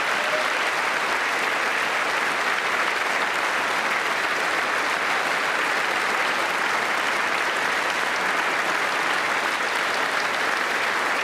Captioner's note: applause